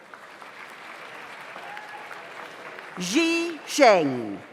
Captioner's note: audience applauds